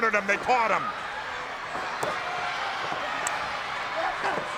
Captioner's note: crowd yelling